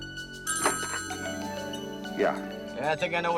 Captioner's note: phone ringing